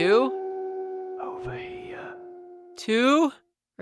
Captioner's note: whispering